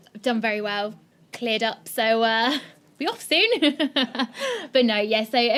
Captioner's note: laughing